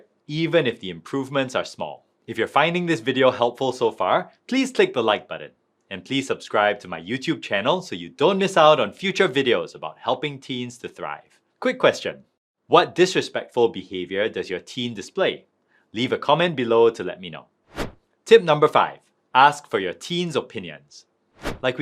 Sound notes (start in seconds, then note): 17.7 screen wipe whooshes